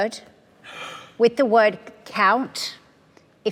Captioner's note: gasps